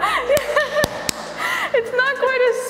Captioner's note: hands clapping; laughing